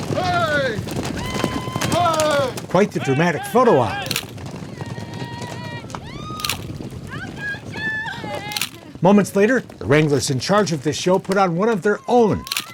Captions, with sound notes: (people screaming) Quite the dramatic photo opp. (hooves thudding) (people screaming) Moments later, the wranglers in charge of this show put on one of their own,